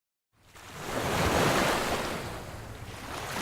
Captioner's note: crashing waves